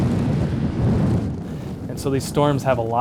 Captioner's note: sound of wind